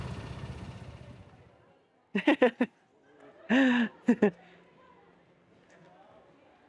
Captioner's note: laughing